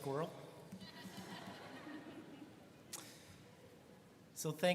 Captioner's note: students laughing